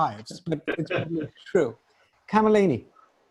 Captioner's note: laughing